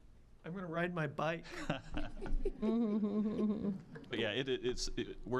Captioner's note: scattered laughing